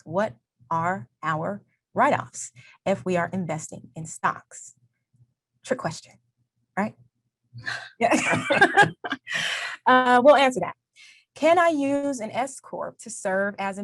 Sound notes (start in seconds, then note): 8.0 both laugh